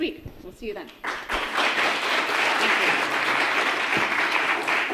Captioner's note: crowd applauds